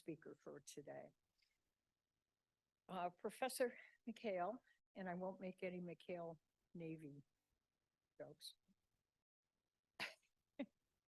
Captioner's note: chuckles